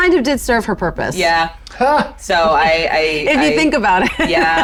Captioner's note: laughs